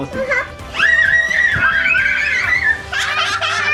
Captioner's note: children laughing